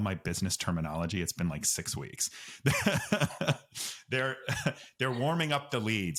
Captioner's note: both laugh